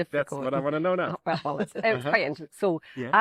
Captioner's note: laughter